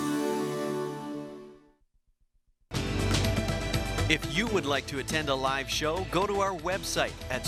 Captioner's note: voiceover